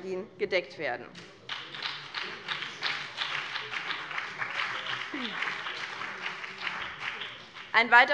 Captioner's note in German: Beifall